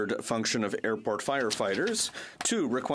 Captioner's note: speaking French